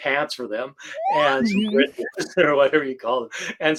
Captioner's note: slide whistle plays